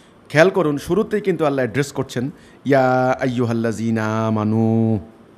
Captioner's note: Arabic